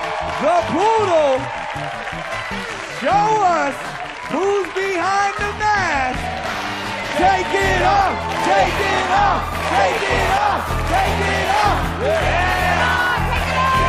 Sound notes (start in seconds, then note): 8.3 chanting